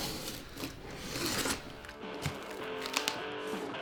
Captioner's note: knife slicing